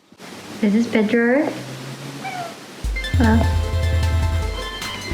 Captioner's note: meow